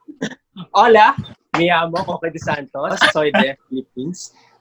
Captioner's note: in Spanish